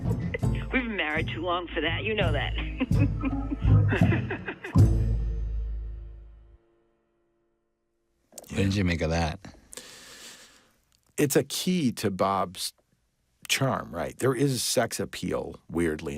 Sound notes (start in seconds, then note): 2.5 laughs